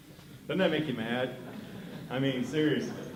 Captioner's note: laughter